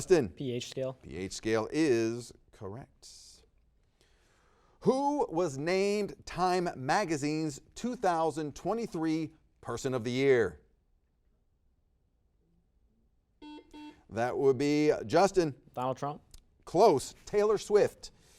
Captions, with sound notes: Justin. - pH scale. - pH scale is correct. Who was named "Time Magazine's" 2023 person of the year? (buzzer beeps) That would be Justin. - Donald Trump. - Close, Taylor Swift.